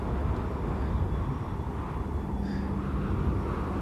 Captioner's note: wind whistling strongly